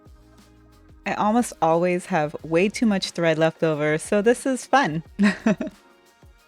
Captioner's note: laughter